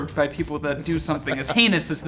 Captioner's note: laughing